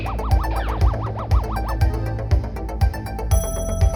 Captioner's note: alert chime